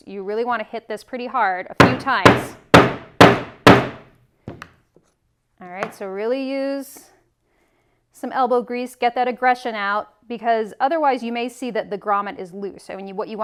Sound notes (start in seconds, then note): 1.8 mallet thudding